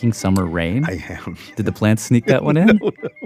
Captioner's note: laughs